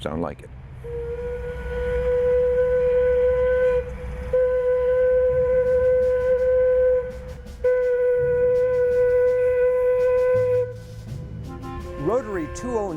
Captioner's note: sound of steam whistle